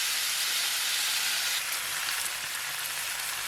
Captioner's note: sizzling sound